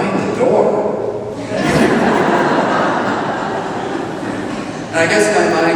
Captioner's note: laughter